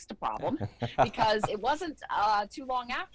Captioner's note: laughs